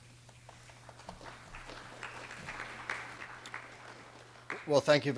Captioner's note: audience clapping